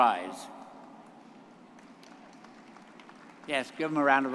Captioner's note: audience applauding